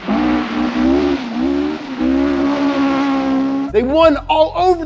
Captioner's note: engine roaring